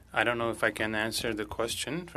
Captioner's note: speaking French